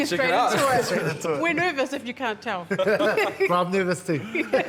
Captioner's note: all laugh; chuckles